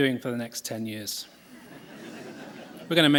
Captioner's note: laughter